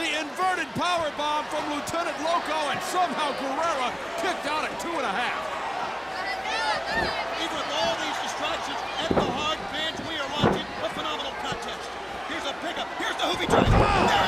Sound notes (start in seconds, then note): 5.4 crowd chatter